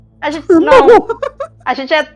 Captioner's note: laughs